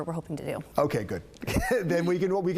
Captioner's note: laughter